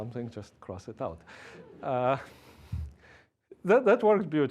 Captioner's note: laughing